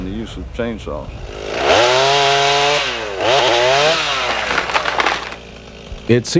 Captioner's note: tool whirs